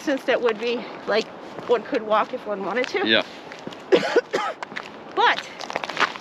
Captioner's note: coughs